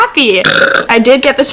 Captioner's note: burp